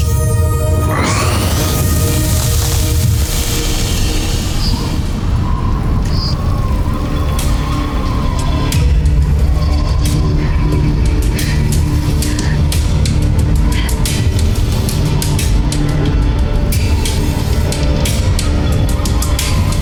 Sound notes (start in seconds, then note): 0.8 infernal whoosh-crackle; 0.9 guttural roar; 3.2 music fades; 5.0 tense music playing; 5.0 wind howling